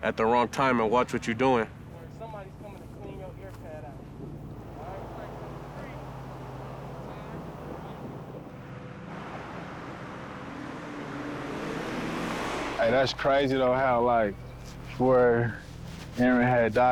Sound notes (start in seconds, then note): 5.9 wind whooshes; 10.0 cars zooms